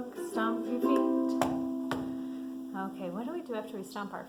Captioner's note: stomps feet